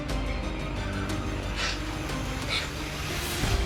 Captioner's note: sniffling